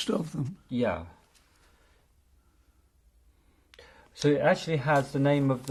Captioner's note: pauses for 3 seconds